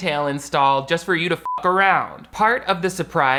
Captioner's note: beep